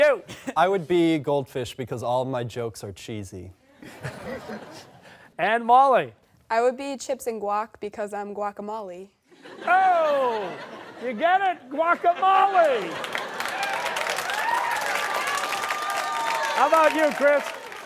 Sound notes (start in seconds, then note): 3.8 laughter; 9.3 laughter; 12.1 cheers and applause